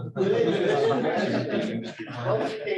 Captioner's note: laughter